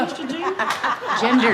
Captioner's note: laughs